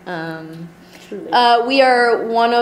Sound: voiceover

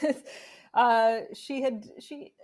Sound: chuckling

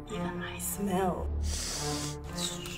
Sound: deep sniff

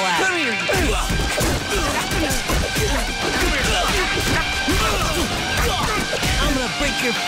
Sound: fighting sounds

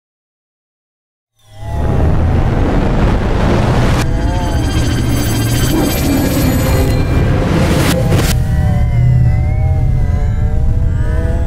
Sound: sound of morphing

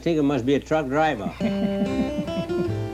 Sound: man laughing; guitar music

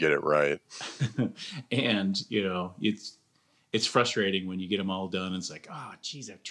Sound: chuckles

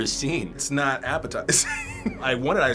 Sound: laughs

